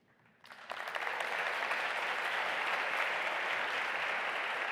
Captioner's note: audience applauding